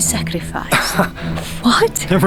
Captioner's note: Varlahm chuckles